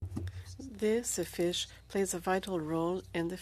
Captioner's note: speaking French